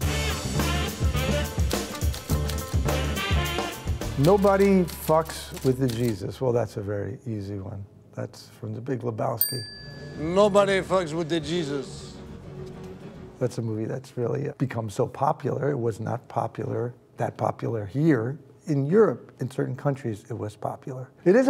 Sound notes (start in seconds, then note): 0.0 upbeat jazz music; 9.4 bell dings